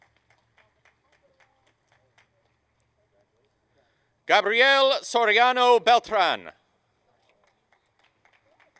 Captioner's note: applause